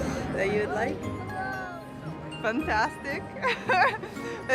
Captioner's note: laughs